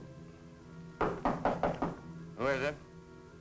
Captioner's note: knocking